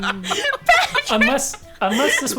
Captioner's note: laughing